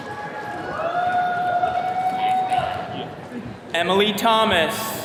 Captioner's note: attendees cheering